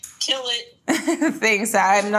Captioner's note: Jordyn laughs